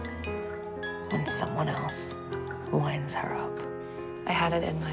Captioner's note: voiceover